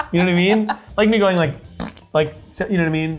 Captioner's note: imitates fart